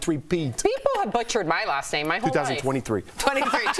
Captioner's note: laughter